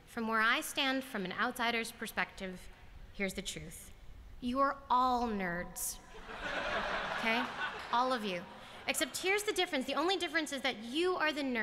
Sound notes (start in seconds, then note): 6.1 laughter